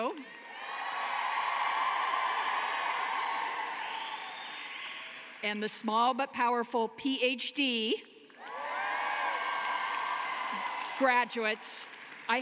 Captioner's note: cheering and applause